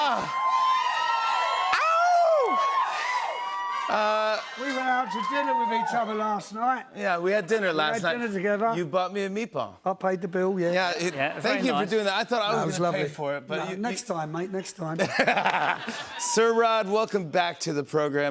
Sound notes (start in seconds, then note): 15.0 laughs